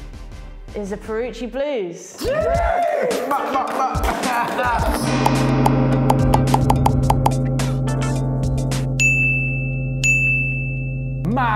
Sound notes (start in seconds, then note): 2.2 celebratory shouting; 9.2 dinging